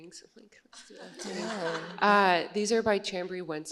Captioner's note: laughter